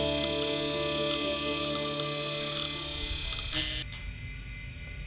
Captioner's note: machines whirring